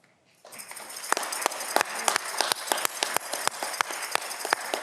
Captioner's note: audience clapping